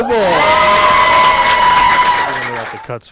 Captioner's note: applause